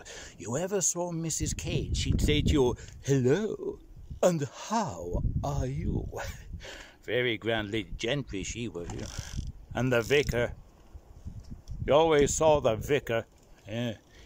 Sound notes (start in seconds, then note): 3.0 posh voice